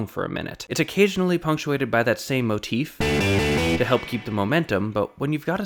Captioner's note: bang